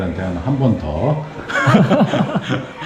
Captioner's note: laughs